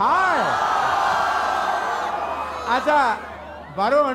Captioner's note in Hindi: चियरिंग